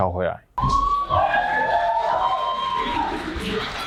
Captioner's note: crowd cheering